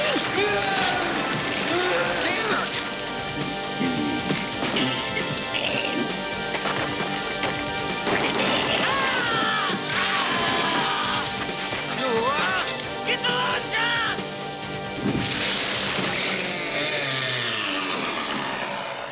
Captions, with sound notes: - [ Shouting ] - DEREK ! [ Shouting ] [ Groaning ] GET THE LAUNCHER ! [ Chain Saw Revving ]